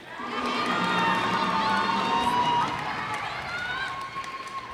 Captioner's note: cheers and applause